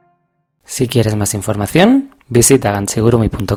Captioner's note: in Spanish